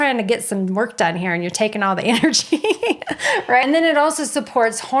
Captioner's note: laughing